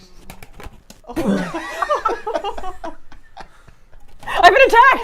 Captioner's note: both laughing